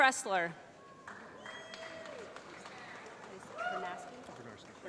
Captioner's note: applause